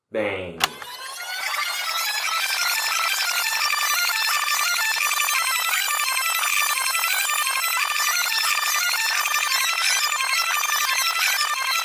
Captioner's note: rewinding Tape